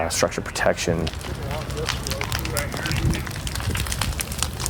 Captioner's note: fire crackling